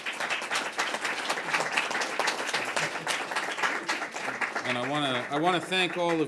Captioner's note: applause